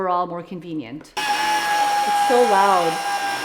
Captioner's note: immersion blender loudly whirring